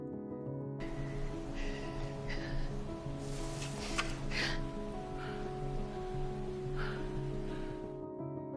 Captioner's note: June breathes heavily